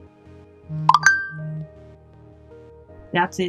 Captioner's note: notification chime